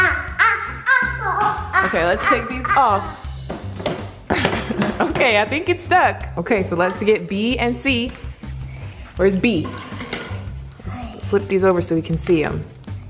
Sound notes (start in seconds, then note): 4.2 laughs